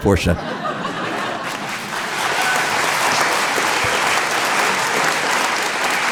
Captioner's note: audience laughing; audience applauding